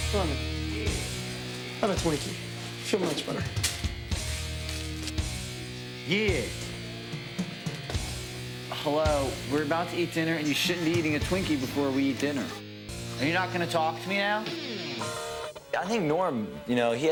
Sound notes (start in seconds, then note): 0.1 heavy rock music; 3.6 heavy rock music; 4.6 plastic crinkles; 7.1 heavy rock music